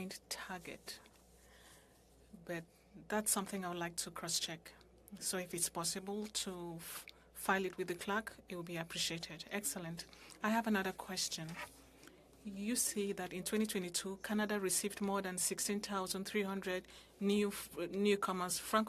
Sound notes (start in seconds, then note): 5.4 speaking french